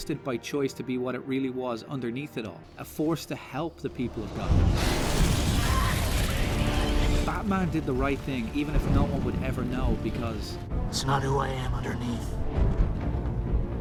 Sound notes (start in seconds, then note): 4.1 loud rushing noises; 4.7 screeching bats; 5.8 crying; 7.0 music rises